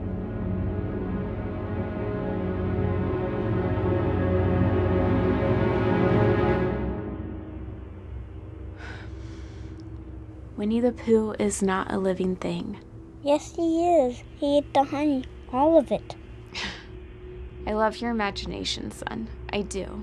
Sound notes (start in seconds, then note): 0.1 music intensifies; 8.8 sighs; 16.5 laughs